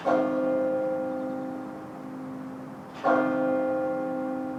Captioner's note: bell ringing; birds singing